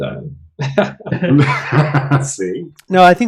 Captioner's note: laughter